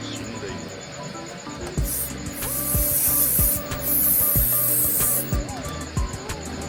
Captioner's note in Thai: เสียงพ่นสเปรย์